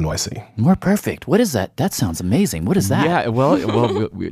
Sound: laughs

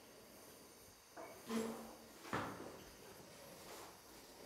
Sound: some rumble from next room

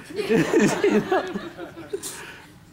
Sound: laughter

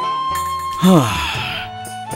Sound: sighs

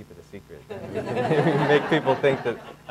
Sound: audience laughing

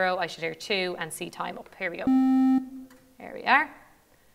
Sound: one tone sounds

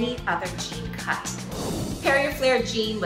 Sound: screen whooshing

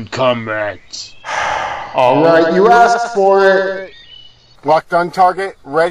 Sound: on Megaphone, sighs in frustration

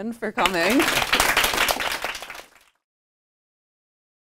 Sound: applause

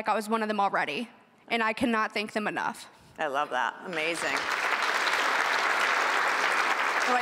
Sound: applause

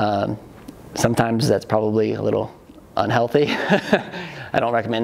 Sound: laughs

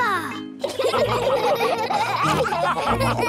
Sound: all laughing

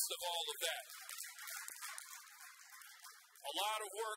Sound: audience applauds

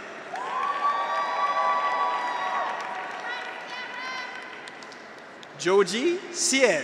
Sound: graduates cheer; audience applauds

